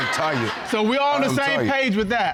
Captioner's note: audience laughing